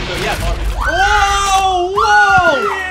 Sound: screams

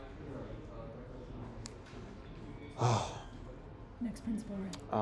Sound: sighs

